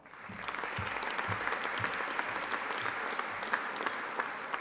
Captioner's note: audience applauding